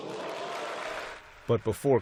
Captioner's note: cheering